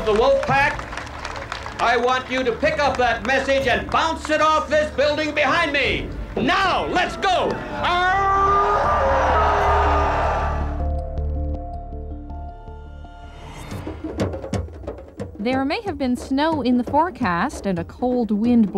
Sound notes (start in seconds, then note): 10.4 howling; 13.7 drumming